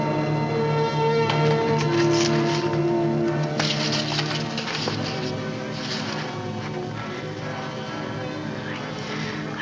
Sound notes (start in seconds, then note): 0.0 dramatic music; 1.4 envelope rustles; 1.8 dramatic music